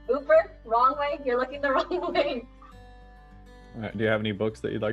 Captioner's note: laughs